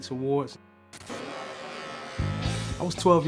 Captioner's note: buzzing hair clipper